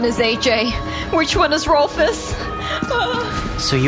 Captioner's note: runs off crying